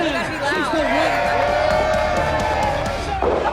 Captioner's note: crowd cheering